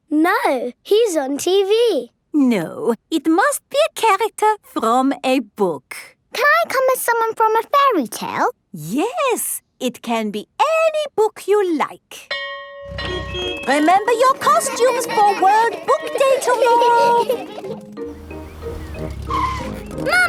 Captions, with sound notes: - No, he's on TV. - No. It must be a character from a book. - Can I come as someone from a fairy tale? - Yes. It can be any book you like. (school bell ringing) Remember your costumes for World Book Day tomorrow! (kids giggling)